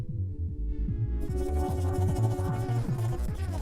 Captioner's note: eerie scuttling; sinister music plays